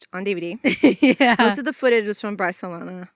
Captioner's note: chuckling